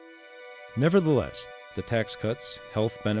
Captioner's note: voiceover